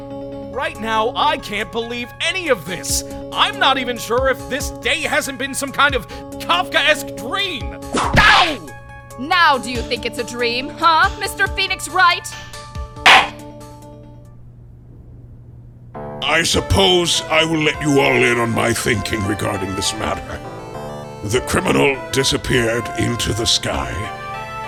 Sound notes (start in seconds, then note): 8.0 whip crack!; 13.0 gavel slams!